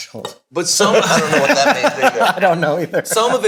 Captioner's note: all laughing